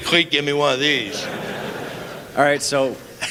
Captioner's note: laughter